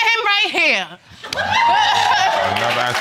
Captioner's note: audience laughs